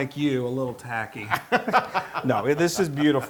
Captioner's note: laugh